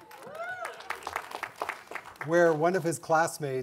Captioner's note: cheering and applauding